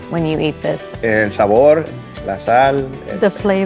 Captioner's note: speaks Spanish